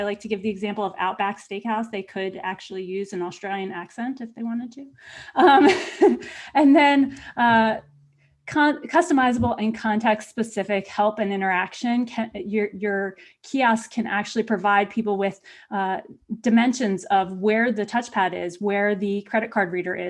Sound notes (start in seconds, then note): 6.9 laughter